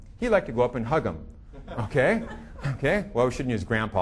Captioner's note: audience laughing